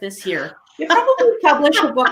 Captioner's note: laughing